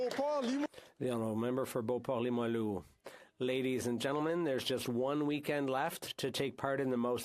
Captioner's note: speaking French